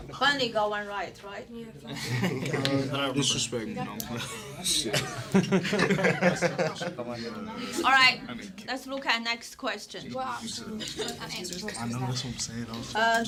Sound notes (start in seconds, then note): 1.8 students murmur; 10.0 students murmur